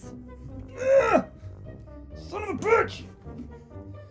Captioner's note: grunting